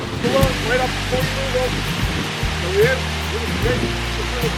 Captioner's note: water rushing